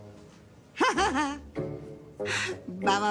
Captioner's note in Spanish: Risas